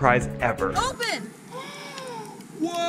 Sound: gasping

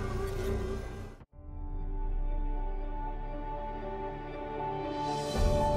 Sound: electronic zapping

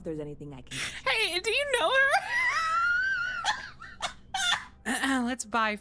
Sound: laughter

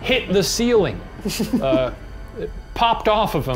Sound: laughs

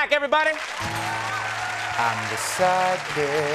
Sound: crowd cheering

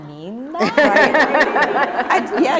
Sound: laughter

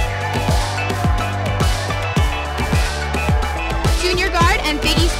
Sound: crowd cheering

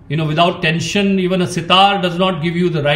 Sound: none

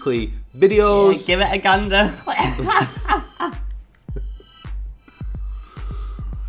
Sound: laughing

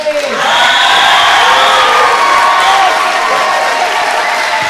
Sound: audience clapping

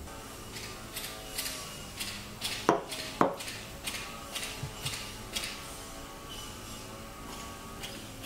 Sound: the neighbors have started mowing the grass

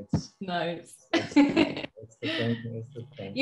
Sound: laughs

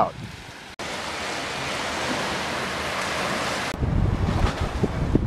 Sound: waves splashing; wind howling

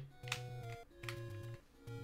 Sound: D-Pad clicks

